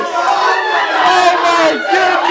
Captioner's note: cheering